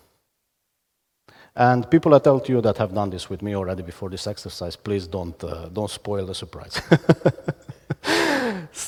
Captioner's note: laughs